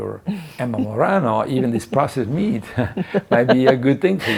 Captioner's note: laughing; laughing